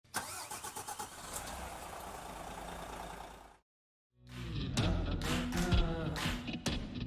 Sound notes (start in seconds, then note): 0.2 car engine revving; 4.2 upbeat music